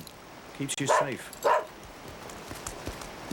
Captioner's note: dog barks